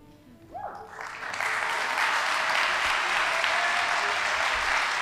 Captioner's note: audience applauding